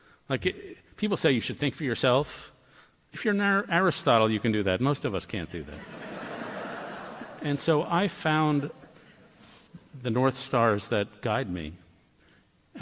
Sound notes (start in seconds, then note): 5.7 laughter